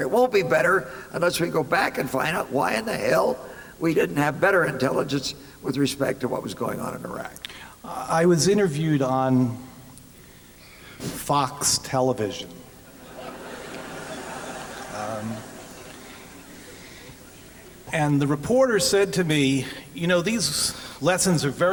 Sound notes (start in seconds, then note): 12.8 laughter